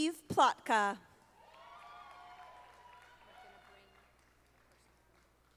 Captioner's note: audience applauding